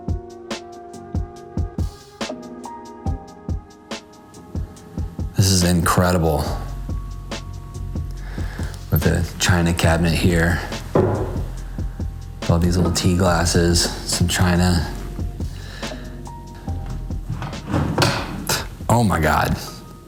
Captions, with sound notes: This is incredible. With a china cabinet here. Love these little tea glasses, some china. (drawer scraping) Oh my god.